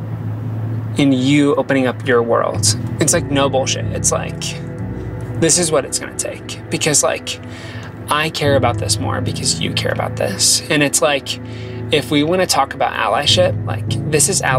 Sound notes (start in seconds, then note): none